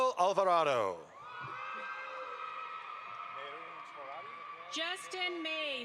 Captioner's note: audience applauds